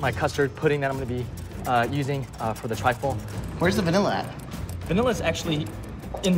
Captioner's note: none